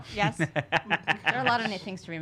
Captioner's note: laughing